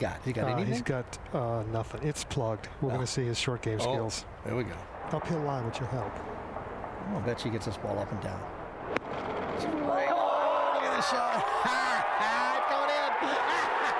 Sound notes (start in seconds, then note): 9.6 <i> crowd cheers</i>